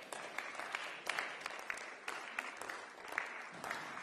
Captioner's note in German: Beifall